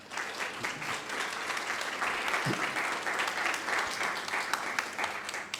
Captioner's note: audience applauding